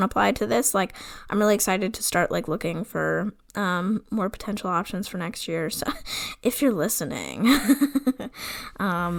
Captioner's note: laughs